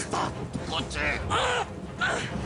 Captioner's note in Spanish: Quejidos